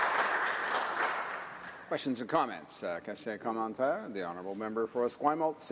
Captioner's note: some Applause